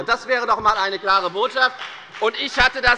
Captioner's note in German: Beifall bei der FDP